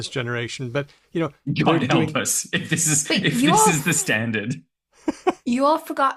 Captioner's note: laughs